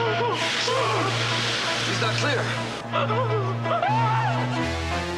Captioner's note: screaming